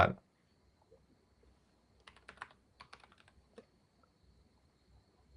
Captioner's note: typing